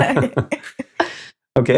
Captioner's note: laughing